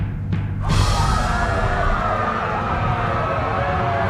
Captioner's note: crowd screaming; music intensifies